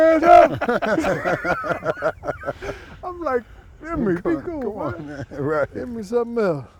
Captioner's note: laughs